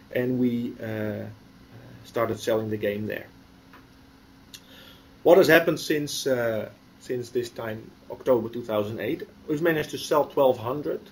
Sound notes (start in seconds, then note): 4.5 pause